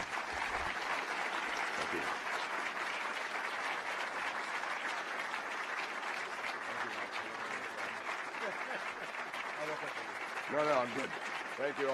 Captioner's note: applause